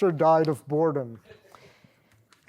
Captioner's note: laughter